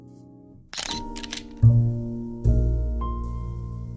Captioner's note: camera shutter; romantic music